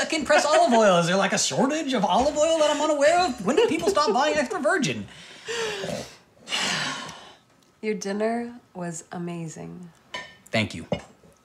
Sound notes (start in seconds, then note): 0.0 laughs; 5.2 sighs